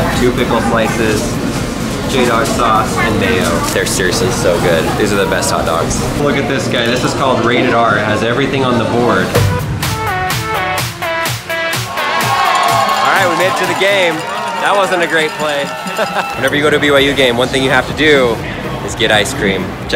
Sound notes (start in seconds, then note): 9.3 upbeat music; 11.8 cheering